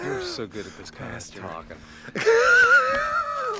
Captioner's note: laughs